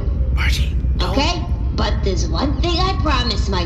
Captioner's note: whispering